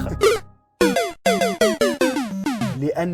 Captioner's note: Super Mario death sound